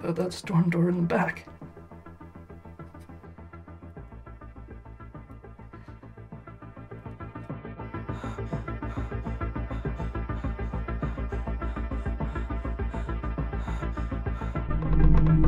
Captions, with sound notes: - How about that storm door in the back? (tense music) (Sandra panting)